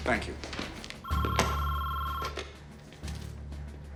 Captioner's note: phone ringing